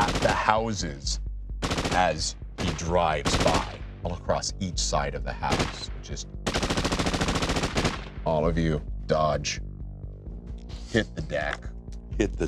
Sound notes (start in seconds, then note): 0.0 gun firing; 2.5 gun firing; 5.4 gun firing